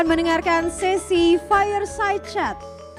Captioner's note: speaking indonesian